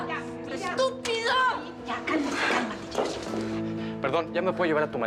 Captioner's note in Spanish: golpes